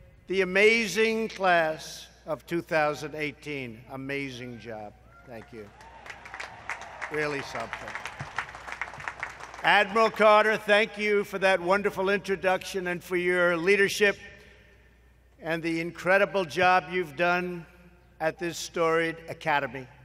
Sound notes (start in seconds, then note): 5.6 applause